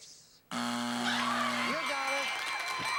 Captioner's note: buzzer